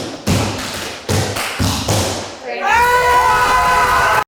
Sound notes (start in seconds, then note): 0.1 tapping; 2.6 group cheering